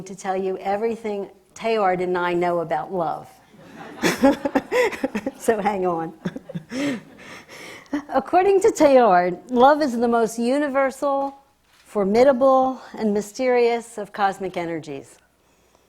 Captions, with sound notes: to tell you everything Teilhard and I know about love. (audience laughs) So hang on (laughs). According to Teilhard, love is the most universal, formidable and mysterious of cosmic energies,